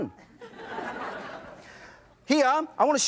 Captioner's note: audience laughs